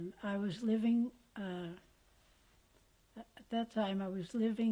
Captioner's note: pauses for 3 seconds